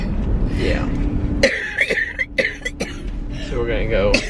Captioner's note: coughing